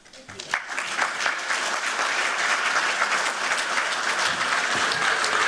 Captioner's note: applause